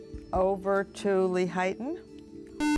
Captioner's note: buzzer